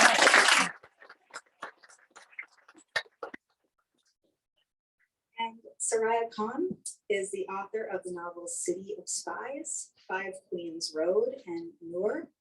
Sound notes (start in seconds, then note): 0.0 laughing; 0.0 clapping